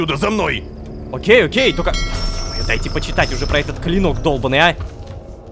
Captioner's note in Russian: Звук корабельного колокола